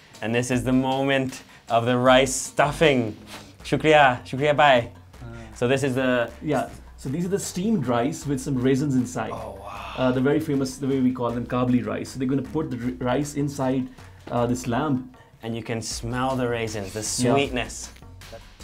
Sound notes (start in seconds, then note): 4.0 speaking in foreign language